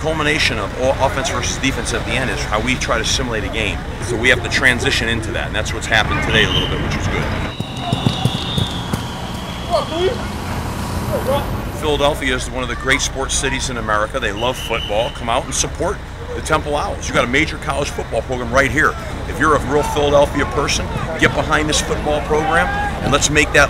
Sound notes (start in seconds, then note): 10.3 players running